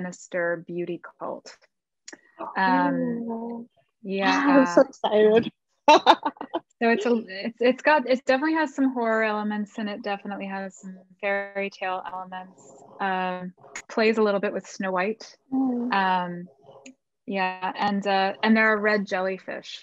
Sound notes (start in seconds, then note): 6.8 she laughs